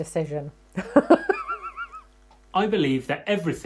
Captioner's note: chuckles